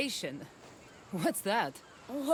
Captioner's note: laughing